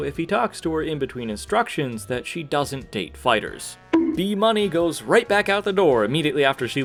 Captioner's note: bonk